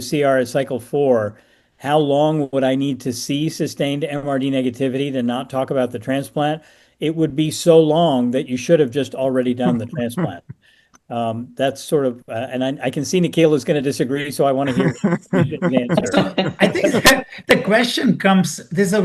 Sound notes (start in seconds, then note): 14.2 laughs